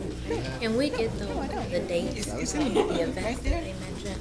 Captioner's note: chattering